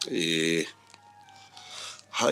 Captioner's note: crackling; eh